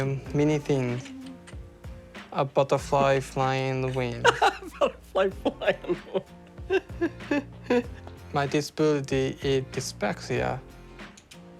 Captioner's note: laughs